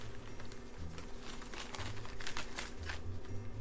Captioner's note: animalistic ripping